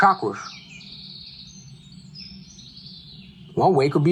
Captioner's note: birds chirping